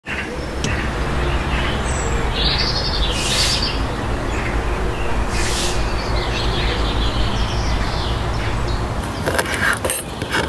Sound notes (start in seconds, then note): 2.1 birdsong